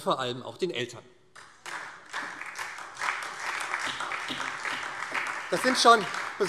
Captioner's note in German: Beifall SPD